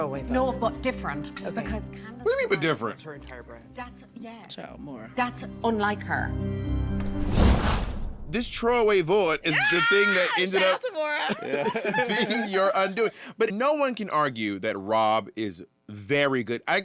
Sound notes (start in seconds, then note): 12.1 laughs